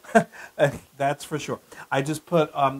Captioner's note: laugh